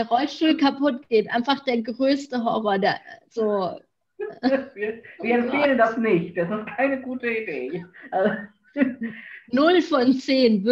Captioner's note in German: lacht